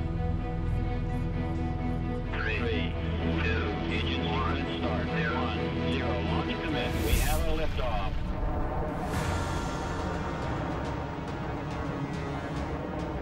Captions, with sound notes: -[radio transmission] Three, two, one... -Engine sequence start. ...zero. Launch commit. We have a lift-off